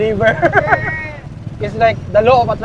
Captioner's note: laughs